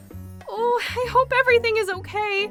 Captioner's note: none